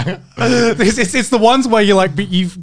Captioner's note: both laugh